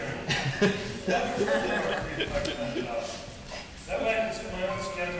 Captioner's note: audience laughing